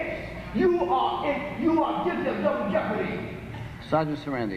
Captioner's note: stammer